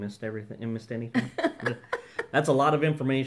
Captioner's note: laughing